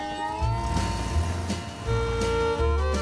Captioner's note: honking